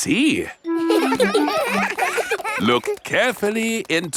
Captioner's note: laughs; children laughing